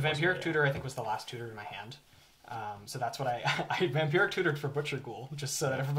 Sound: laughs

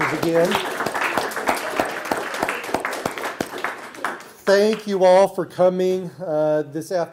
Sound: applause

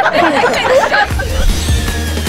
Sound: laughing

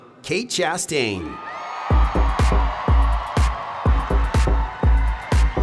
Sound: audience cheering

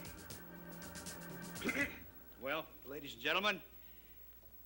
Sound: Charlie coughs

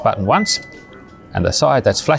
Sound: beep

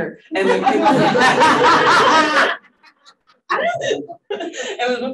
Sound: panelists laughing

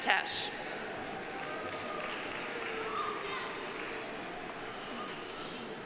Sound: audience applauding

